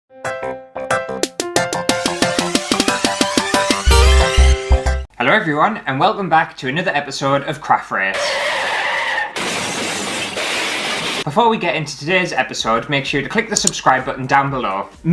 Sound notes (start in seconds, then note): 1.0 intro Music; 9.3 car Crash Sound